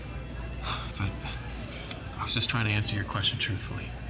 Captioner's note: sighs